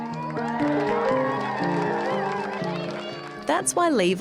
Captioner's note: cheering and applause